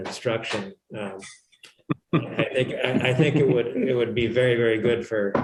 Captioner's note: laughter